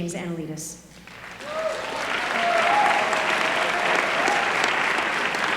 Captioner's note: applause